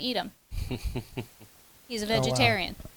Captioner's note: chuckles